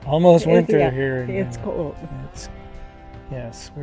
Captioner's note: laughing